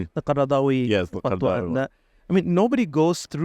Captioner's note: arabic